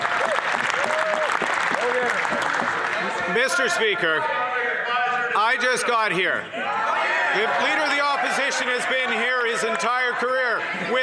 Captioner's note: some applause